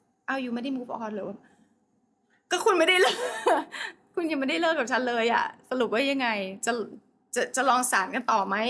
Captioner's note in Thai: เสียงหัวเราะ